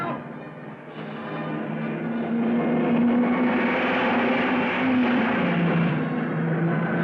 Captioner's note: dramatic music; cars revving